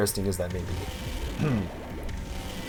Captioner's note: ahem